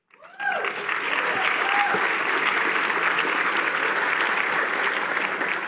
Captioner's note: cheering